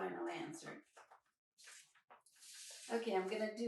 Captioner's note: pages flipping